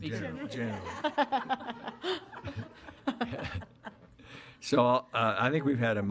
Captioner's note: laughing